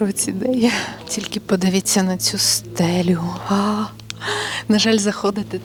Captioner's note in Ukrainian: хекання